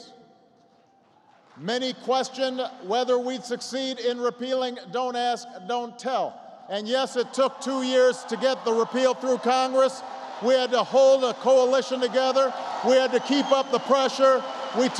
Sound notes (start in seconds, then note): 0.7 applause; 9.9 applause